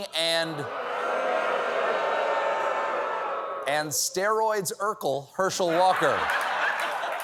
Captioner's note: booing